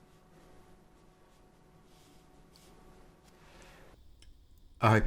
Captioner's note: silence